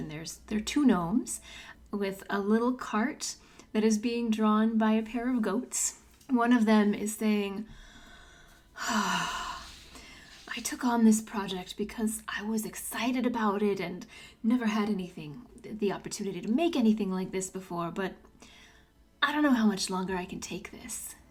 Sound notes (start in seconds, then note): 8.7 deep sigh